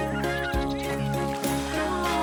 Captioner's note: splash